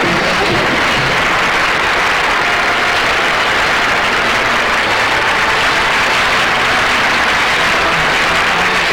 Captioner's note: audience Applauding